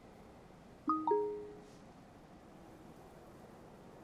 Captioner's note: message dings